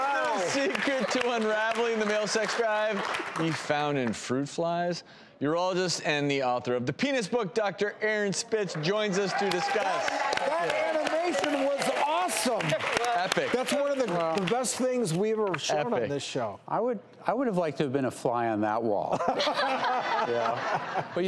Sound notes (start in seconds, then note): 8.7 applause; 19.1 laughter